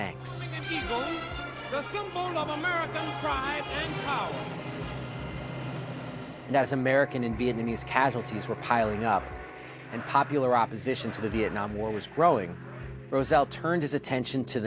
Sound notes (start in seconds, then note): 4.9 helicopter whirring